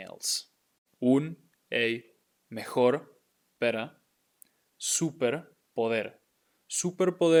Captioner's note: speaking in Spanish